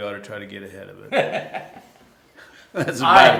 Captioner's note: laughter